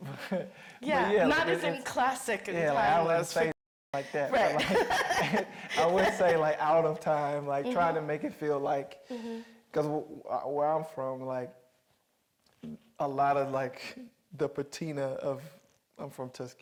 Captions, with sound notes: - Exactly. - Yeah, not as in classic and timeless fiction. - Yeah, I wouldn't say no shit like that. - Right. (laughing) - I would say like, out of time, like, trying to make it feel like, 'cause where I'm from, like, a lot of, like, the patina of,